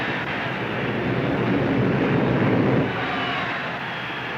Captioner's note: airplanes buzzing; crowd cheers